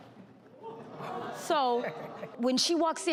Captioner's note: audience exclaim and laugh